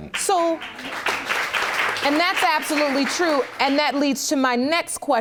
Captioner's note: audience applauds